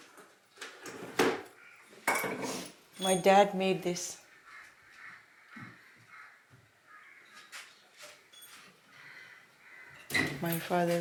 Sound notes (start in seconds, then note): 1.2 object thuds; 4.2 birds cawing; 9.9 hinges creak